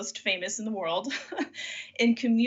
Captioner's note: laughs